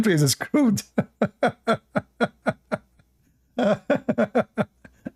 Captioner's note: Ketawa